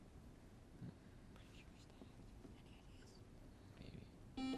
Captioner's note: whispering